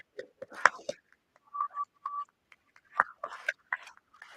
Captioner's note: applause